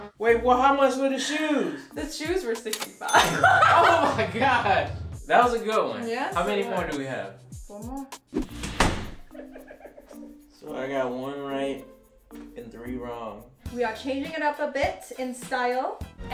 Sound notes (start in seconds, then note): 3.2 ka-ching; 9.2 giggling